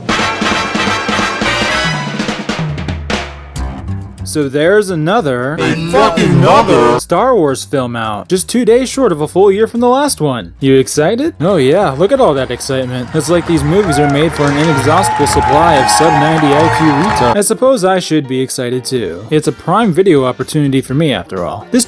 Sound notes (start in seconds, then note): 5.6 distorted